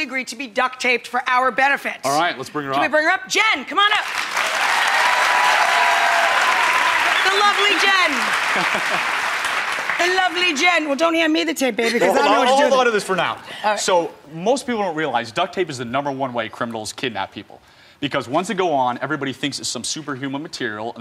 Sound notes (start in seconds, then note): 3.9 audience applauding; 8.4 laughs